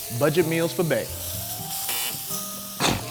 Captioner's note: sizzling; buzz